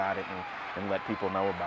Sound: cheering crowd

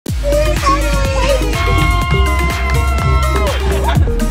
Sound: crowds cheering

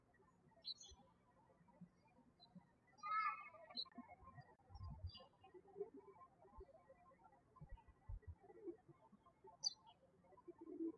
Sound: birds chirping

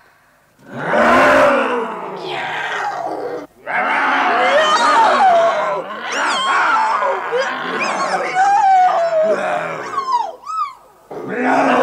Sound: the cats meow aggressively

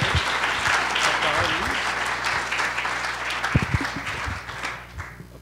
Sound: applause

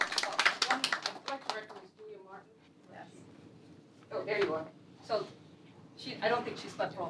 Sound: applause

